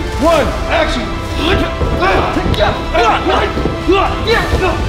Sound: grunting

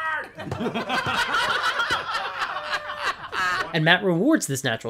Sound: laughter

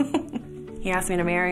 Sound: laughs

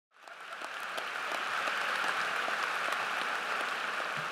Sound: audience applause

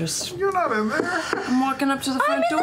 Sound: knocking

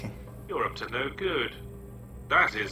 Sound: voiceover

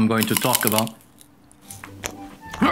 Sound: chewing sounds

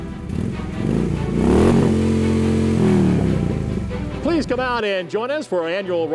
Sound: engine revving

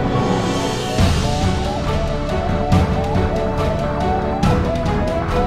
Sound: robotic sounds

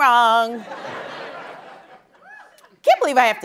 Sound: laughter

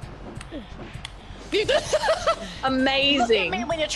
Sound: laugh

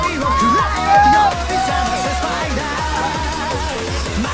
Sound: crowd cheering; foreign music playing

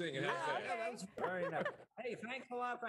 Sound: laughter

